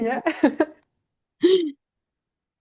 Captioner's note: laughter